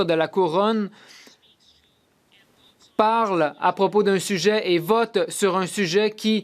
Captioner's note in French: voix de l'interprète